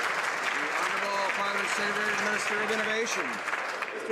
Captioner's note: some Applause